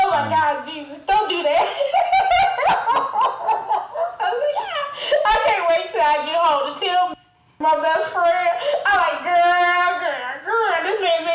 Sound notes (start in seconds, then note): 1.7 laughs nervously